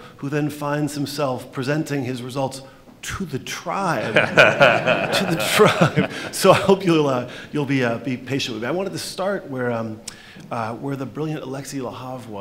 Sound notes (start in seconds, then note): 4.0 laughter